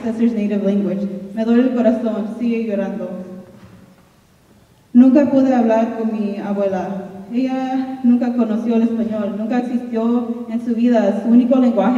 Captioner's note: speaking in Spanish